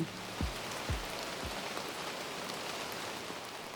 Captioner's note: rain